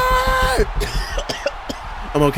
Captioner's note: coughing